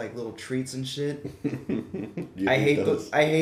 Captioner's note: laughs